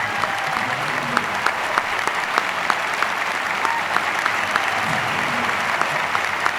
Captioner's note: students continue cheering and applauding